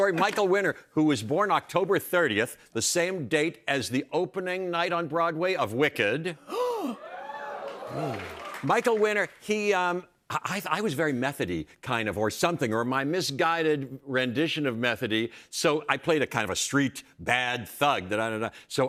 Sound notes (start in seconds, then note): 6.4 gasps; 7.6 audience gasping